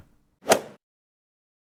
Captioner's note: swoosh